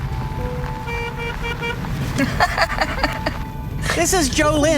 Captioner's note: honks horn; laughs